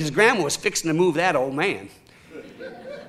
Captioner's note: audience chuckling